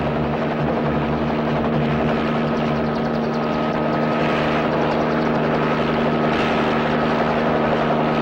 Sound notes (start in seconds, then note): 2.0 helicopter roaring